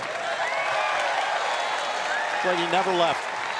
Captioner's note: cheers & applause